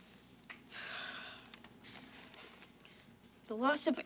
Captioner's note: sighs